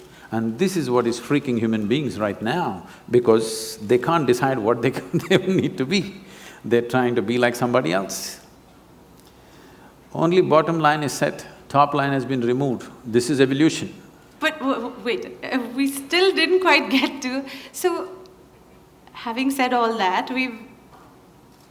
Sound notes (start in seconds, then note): 5.3 laughs